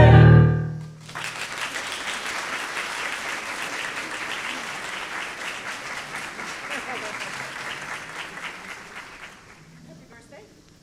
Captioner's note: applause